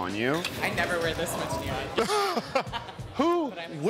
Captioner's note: chuckles